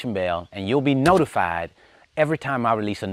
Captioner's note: clicking